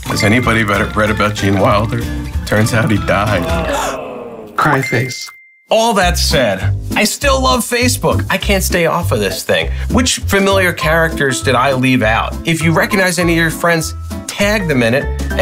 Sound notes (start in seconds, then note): 3.2 people reacting